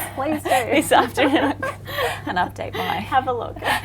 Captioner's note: both laugh